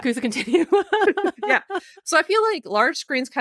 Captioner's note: both giggling